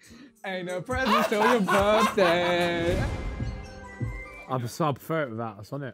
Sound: laughing

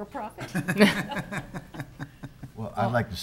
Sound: laughter

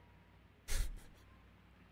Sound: chuckles

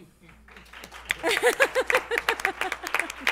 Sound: applause

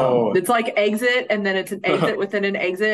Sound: chuckles

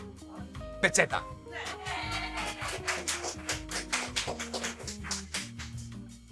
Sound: applause

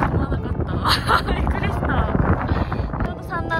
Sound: wind noises

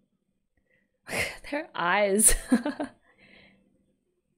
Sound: laughs

